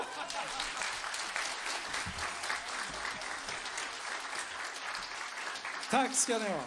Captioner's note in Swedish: applåder